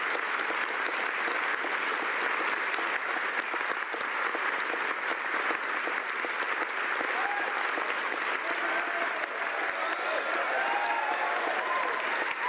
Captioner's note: applause